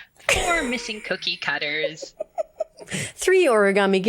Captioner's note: laughs